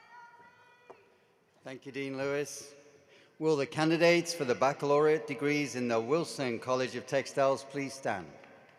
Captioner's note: cheering and applause